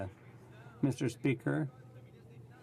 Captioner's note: speaking French